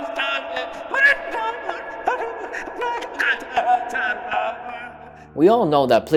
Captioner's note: sobs